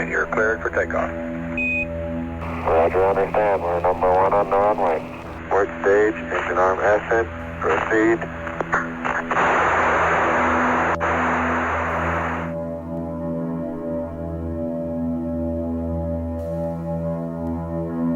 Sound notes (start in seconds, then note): 7.6 static; 14.1 mysterious music